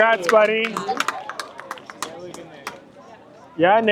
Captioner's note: clapping